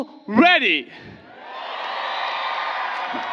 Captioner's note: applause